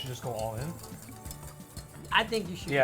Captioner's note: whisk rustling